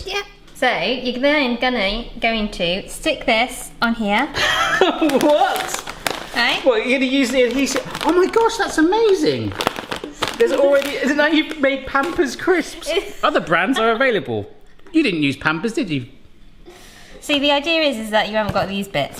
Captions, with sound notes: - Yeah, so you're going to stick this on here. - (laughs) What? Well, you're gonna use the adhesive, oh my gosh, that's amazing. Isn't that you've made Pampers crisps. Other brands are available. You didn't use Pampers, did you? - See the idea is that you haven't got this bits.